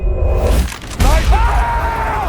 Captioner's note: rifle fires